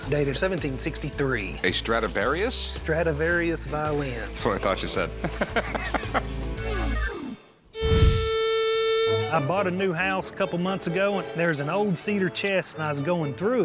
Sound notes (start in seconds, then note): 4.7 laughs